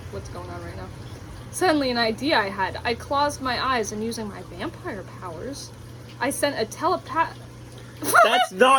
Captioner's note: laughs